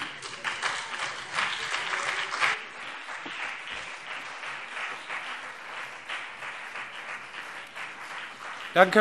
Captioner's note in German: Lebhafter Beifall BÜNDNIS 90/DIE GRÜNEN und CDU